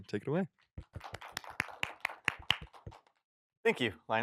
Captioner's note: applause